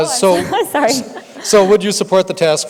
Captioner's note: laughs